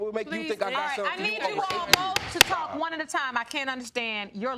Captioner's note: bangs gavel